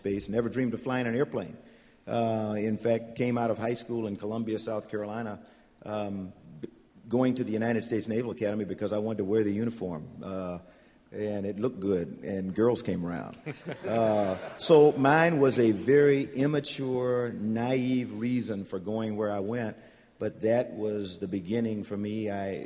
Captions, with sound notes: never dreamed of flying an airplane. In fact, came out of high school in Columbia, South Carolina, going to the United States Naval Academy because I wanted to wear the uniform. And it looked good, and girls came around. [ Laughter ] So mine was a very immature, naive reason for going where I went, but that was the beginning for me.